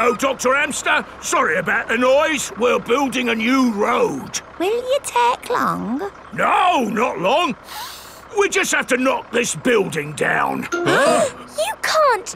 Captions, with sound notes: Hello, Dr. Hamster. Sorry about the noise. We're building a new road. Will you take long? No, not long. (SNIFFS) We just have to knock this building down. (ALL GASPING)